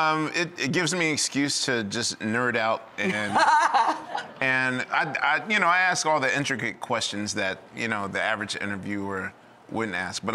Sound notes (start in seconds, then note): 3.0 laughs